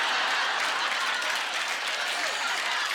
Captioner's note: applause; laughter